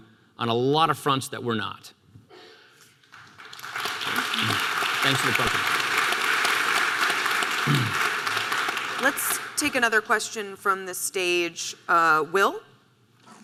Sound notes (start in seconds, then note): 3.1 audience applause